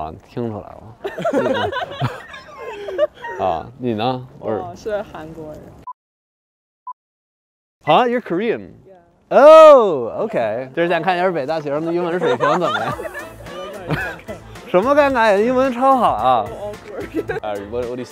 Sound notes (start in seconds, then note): 0.1 speaking in foreign language; 1.0 laughter; 10.7 speaking in foreign language; 14.6 laughter; 15.5 speaking in foreign language